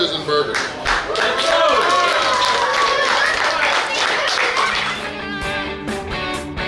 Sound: cheering & Clapping

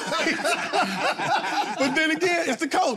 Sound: all laugh

